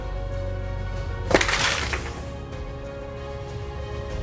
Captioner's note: thump and crashing slide